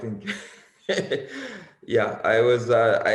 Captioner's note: laughs